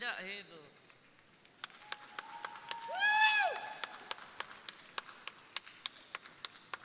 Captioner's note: crowd applauding; crowd cheering